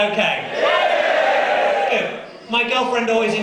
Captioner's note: crowd screaming happily